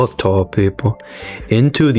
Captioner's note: inhales Oxygen